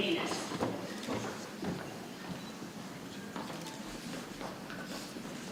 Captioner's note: people chattering softly